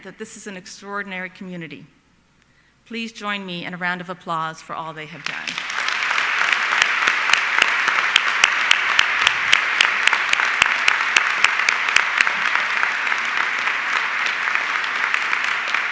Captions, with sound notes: that this is an extraordinary community. Please join me in a round of applause for all they have done. (audience clapping)